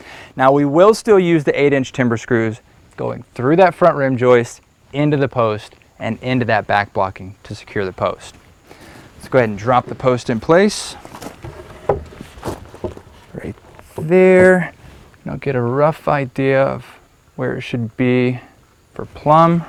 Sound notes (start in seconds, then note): 10.7 wood thuds against wood, no additional audio